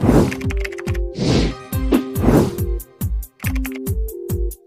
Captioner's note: whoosh; fast paced music